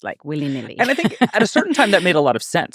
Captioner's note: laughing